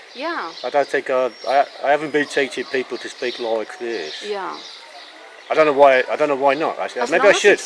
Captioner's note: speaks with W-ton accent